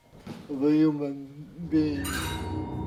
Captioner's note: bell chime